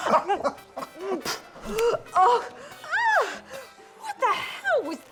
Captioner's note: spits, shrieks